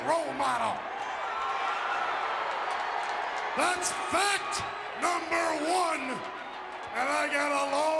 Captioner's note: applause